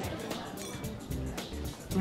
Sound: clink

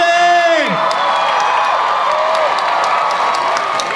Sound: audience cheers

